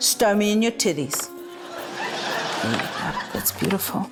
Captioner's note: laughter